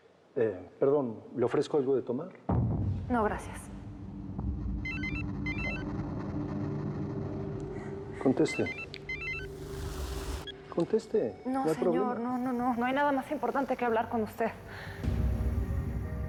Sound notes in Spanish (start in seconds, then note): 4.7 Suena el celular